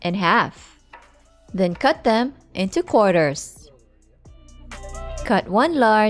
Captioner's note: knife thudding